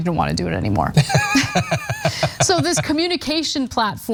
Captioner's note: laugh